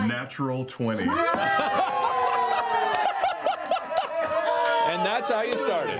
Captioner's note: cheering